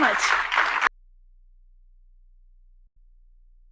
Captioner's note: audience applauding